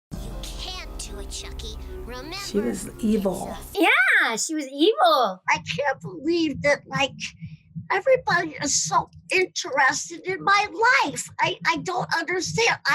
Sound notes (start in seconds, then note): 5.5 as Chuckie